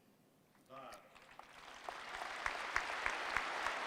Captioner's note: applause